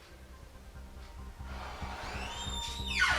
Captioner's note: door opens